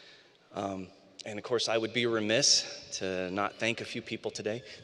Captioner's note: laughter